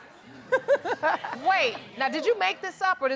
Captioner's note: laughs